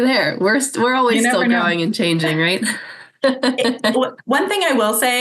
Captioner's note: laughs